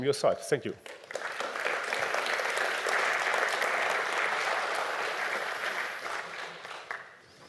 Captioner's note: applause